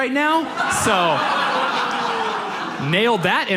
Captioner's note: audience laughs